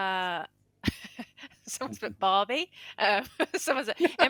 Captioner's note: laughs